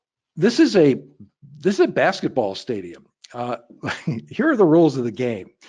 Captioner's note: laughs